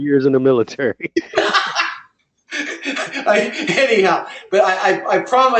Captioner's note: laugh